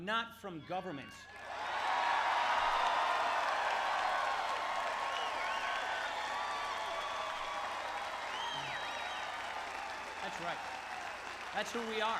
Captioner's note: crowd cheering